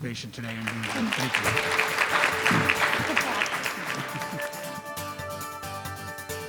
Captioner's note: applause